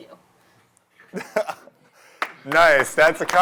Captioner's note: laughter